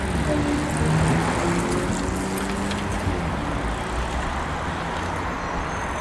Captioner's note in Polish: the sound of a bicycle riding